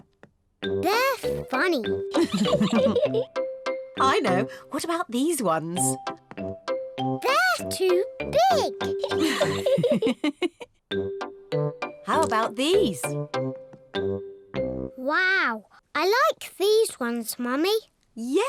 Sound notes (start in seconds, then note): 2.2 laughs; 9.0 laughs